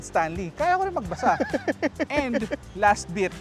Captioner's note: laughs